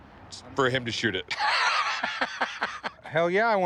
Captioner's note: laughing